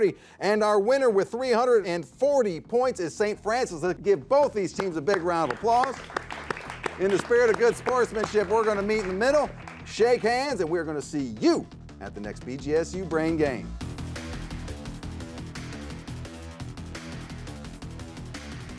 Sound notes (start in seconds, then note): 5.1 audience applauds; 14.5 active music